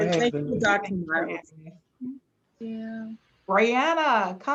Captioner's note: murmurs